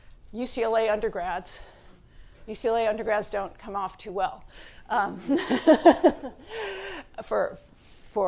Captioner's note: laughs